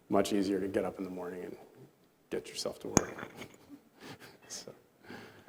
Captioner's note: chuckles